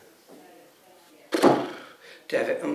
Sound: exasperated sound

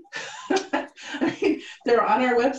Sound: laughing

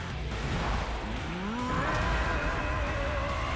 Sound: roaring

